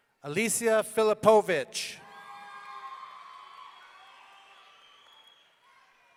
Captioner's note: audience cheering